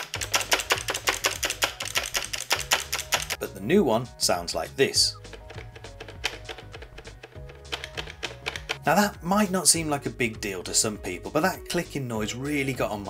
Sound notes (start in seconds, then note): 0.0 loud clicking; 5.1 bumper moving, making a bit of noise but not clicking